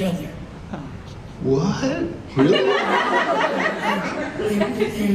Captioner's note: audience laughter